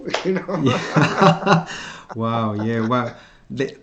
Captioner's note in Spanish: Risas